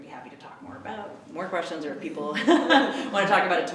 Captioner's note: laughs